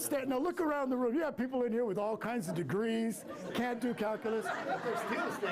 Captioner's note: laughter